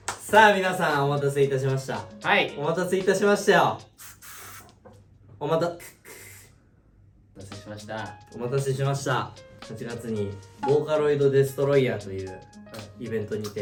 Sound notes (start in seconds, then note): 3.9 spray; 3.9 imitating spray sound